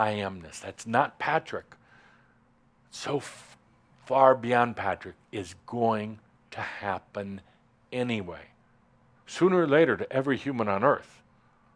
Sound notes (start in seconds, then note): none